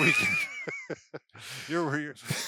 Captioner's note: laugh